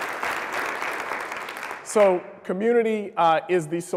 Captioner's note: applause